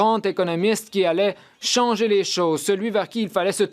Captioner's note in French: voix de l'interprète